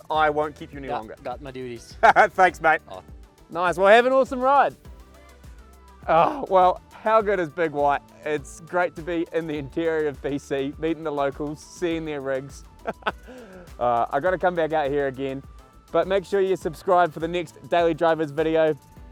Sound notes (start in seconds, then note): 2.0 laughs; 4.8 faintly speaking; 12.8 laughs